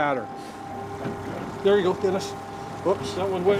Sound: boat engine idling

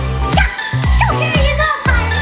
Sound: makes swashbuckling noises

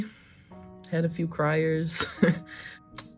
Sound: laughs

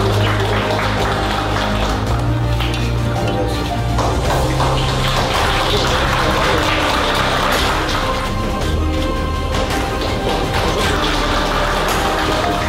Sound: applause

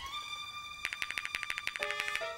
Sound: spray can rattling

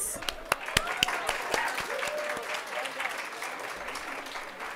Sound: audience applauding

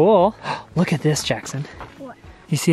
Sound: gasps

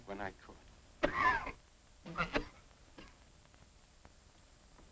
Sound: Mr. Bradford coughing

